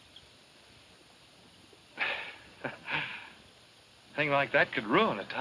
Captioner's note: chuckles